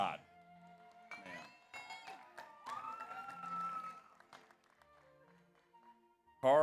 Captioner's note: audience applauds; audience cheers